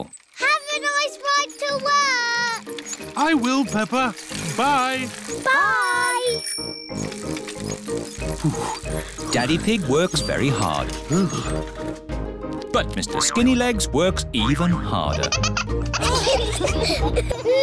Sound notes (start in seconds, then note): 5.5 bell rings; 7.9 panting; 15.0 all laugh